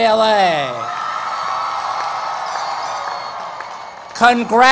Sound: cheering and Applause

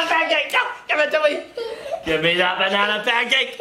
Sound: laughs

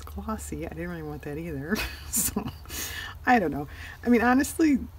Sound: laughs

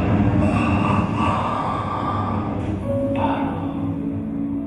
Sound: evil laughing

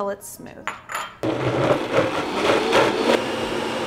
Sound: whir

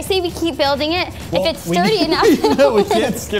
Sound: laughing

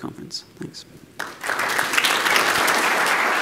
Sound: applause

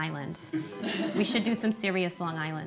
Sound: laughter

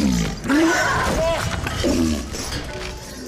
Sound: roars

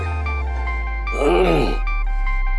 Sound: clears throat

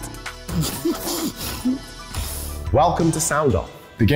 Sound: laughing

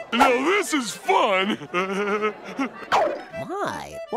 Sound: laughing

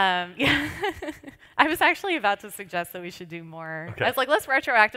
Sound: laughs

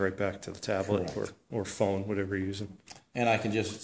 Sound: voiceover

